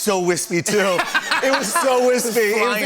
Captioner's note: laughter